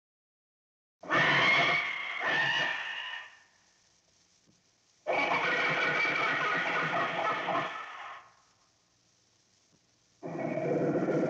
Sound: scary animal sounds

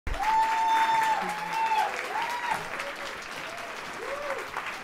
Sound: audience applauding and cheering

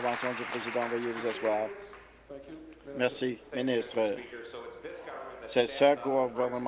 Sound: applause

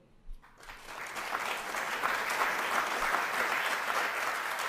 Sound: applause

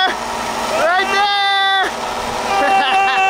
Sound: exclaiming; laughing

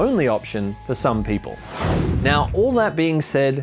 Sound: whooshing

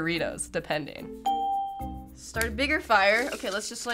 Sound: ding

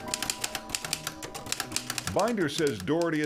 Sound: keys clicking

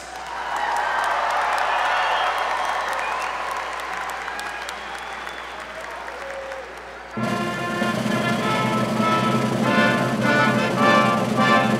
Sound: applause

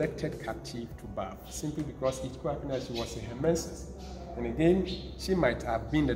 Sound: speaks foreign language

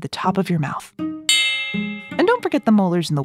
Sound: switch bell

